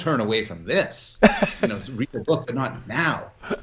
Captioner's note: laughs